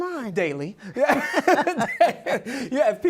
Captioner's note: laughs